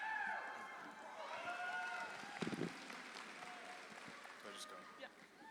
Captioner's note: audience applauds